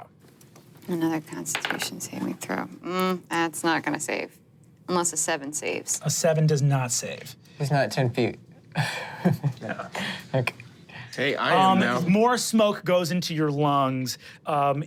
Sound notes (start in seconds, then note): 2.1 dice rolling; 8.8 laughs